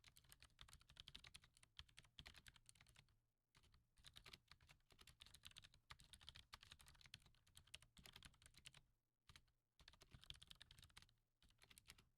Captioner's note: typing